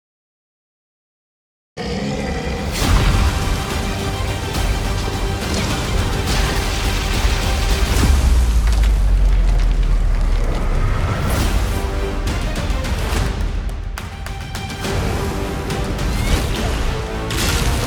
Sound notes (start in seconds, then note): 2.4 glorious music playing; 8.5 fire crackling; 15.4 fast-paced music playing